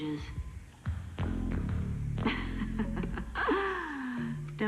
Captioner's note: Ehrengraf laughs